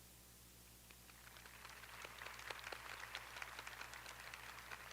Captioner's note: audience applauding